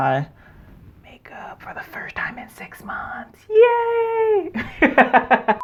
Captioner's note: laughs